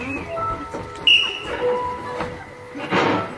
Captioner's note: long whistle; whistle